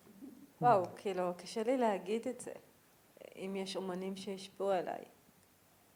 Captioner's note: speaking in foreign language